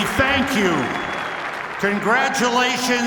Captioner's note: cheers and applause